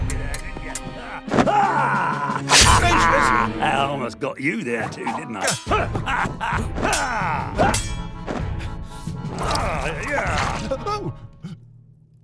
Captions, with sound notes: Gracious! - Almost got you there too, didn't I? [Fighting sounds] [Paint squishes] - Oh!